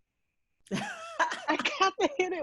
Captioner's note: laughing